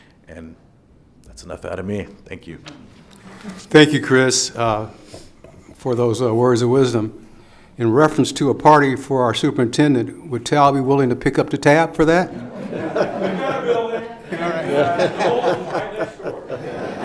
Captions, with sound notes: and that's enough out of me, thank you. Thank you, Chris, for those are words of wisdom. In reference to a party for our superintendent, will TALB be willing to pick up the tab for that? (everyone laughs)